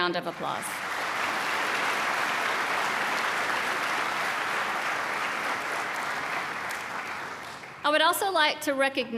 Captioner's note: applause